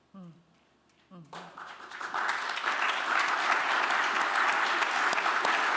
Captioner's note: applause